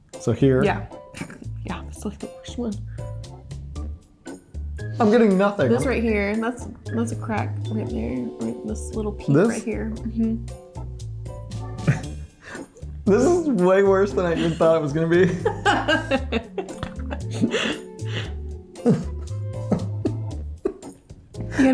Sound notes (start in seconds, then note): 11.8 chuckles; 15.2 laughing